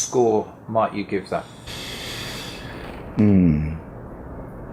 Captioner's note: sucks air